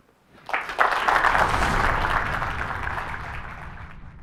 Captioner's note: audience applauds